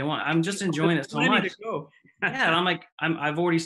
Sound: laughs

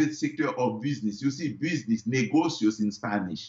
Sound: foreign language

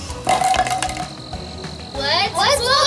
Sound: clattering

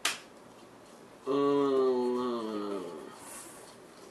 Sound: zombie groan

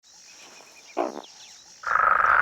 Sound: croaks; purrs

